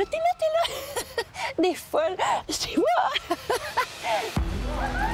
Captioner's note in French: rire